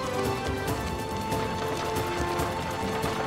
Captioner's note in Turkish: Kağnı sesi